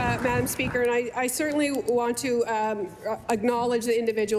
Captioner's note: applause